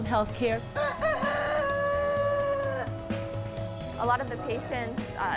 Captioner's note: rooster crowing